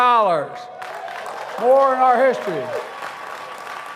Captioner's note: applause